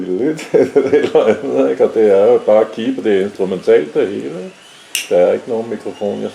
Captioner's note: hums polka